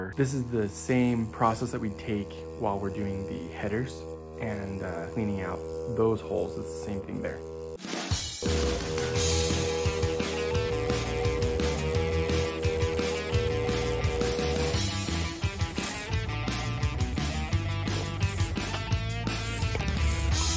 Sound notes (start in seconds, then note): 8.1 machine whirring continues; 8.1 upbeat rock music; 15.4 upbeat rock music continues